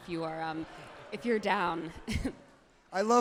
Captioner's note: crowd cheers wildly